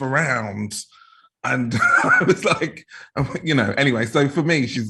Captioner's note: laughs